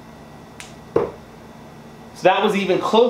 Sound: thuds

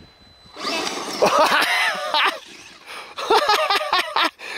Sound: laughs

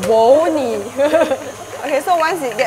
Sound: laughs

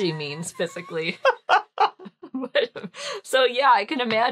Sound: laughing

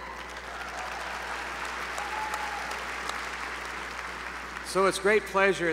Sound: applause

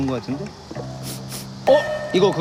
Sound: sniff Sniff

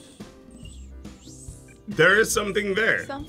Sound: whistles weakly

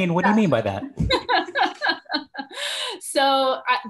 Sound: laughs

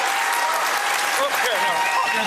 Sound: applause

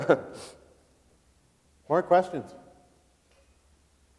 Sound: laughs

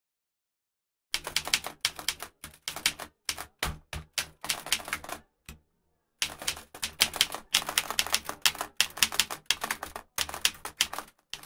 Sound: sound of typewriter typing

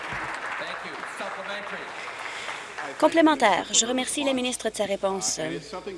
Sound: applause

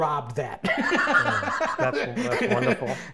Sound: laughs

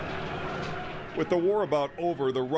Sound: dramatic music; people talking

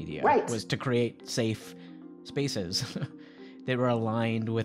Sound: chuckling

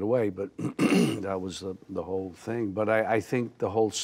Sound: clears throat

